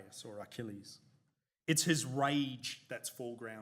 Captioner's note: none